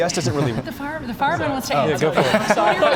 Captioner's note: laughter